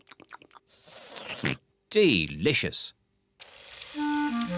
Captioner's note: slurps and oinks